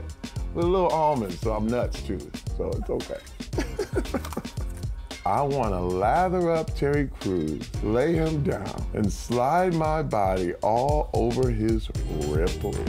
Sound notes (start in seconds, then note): 3.5 laughs